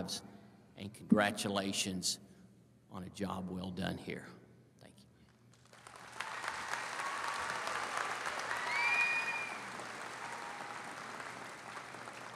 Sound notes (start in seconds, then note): 5.6 audience applauding; 5.8 audience cheers